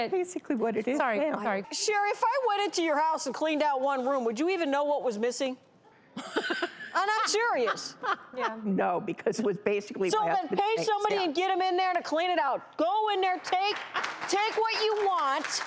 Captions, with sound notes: - That's basically what it is. - Sherry if I went into your house and cleaned out one room would you even know what was missing? (laughing) And I'm serious. - No because it was basically put things out-- - So then pay somebody and get them in there to clean it out. Go in there, take what you want,